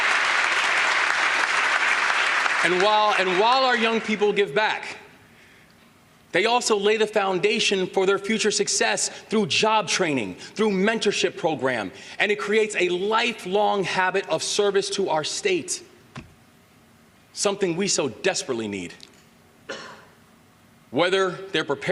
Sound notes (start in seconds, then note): 3.5 applause